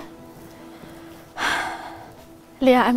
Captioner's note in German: Seufzen